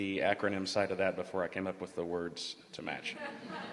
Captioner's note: laughter